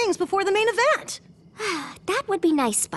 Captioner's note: sigh